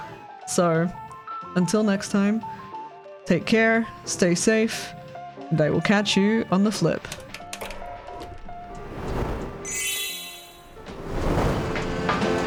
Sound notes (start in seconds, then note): 7.1 projector retracts; 9.6 title whoosh and chime; 11.0 rain and thunder; 11.0 smooth jazz plays